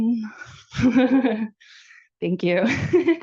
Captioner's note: laughs